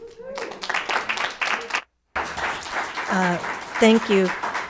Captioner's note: crowd applauding